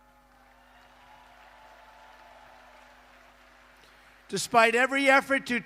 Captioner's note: applause